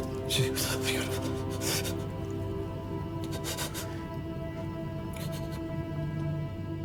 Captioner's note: Michael gasping